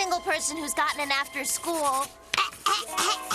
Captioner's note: clears throat loudly